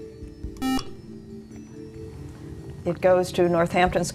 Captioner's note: beeping